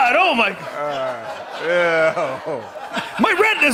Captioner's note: laughter